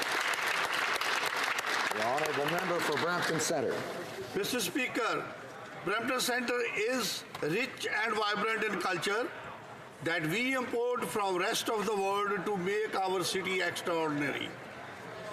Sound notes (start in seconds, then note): 4.4 some Applause